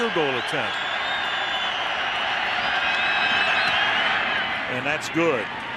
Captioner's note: cheering